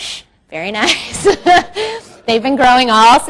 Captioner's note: laughs